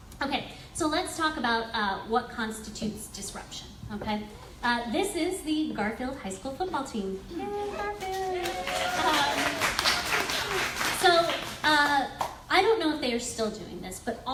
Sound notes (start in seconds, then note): 7.8 audience applauds